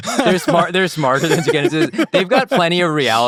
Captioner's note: laughing